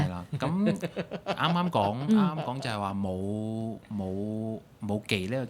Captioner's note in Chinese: 眾人笑